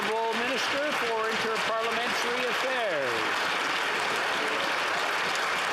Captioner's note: some Applause